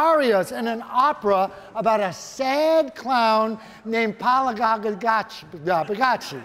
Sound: stuttering name; audience laughing

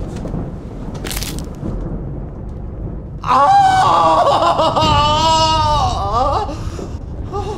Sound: bone snaps; Nathan groaning

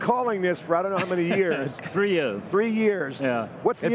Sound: laughing

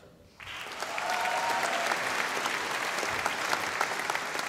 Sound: audience applauding

